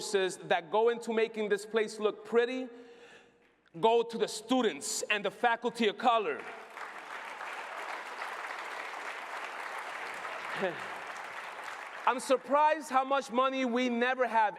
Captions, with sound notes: that go into making this place look pretty go to the students and the faculty of color (applause). I’m surprised how much money we never have